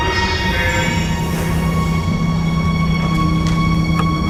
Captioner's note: screams, crashes